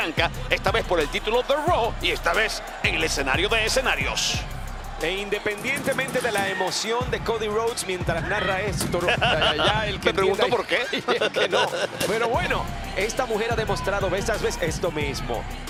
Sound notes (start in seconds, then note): 10.4 laugh